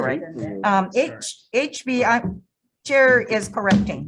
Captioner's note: people murmuring